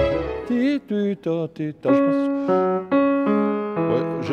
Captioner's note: mimicking notes